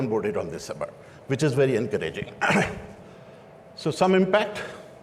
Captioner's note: clears throat